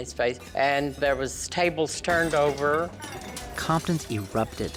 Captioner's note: glass Crashing